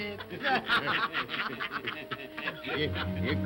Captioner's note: all laugh & cackle